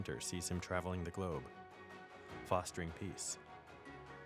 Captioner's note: none